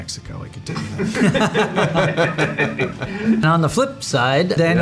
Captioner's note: everyone laughs